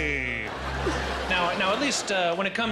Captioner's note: crowd laughing